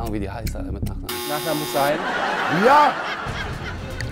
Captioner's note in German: Gelächter